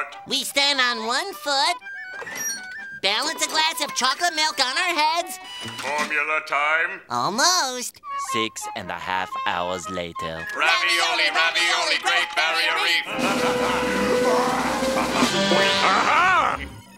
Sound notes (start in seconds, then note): 13.0 laughing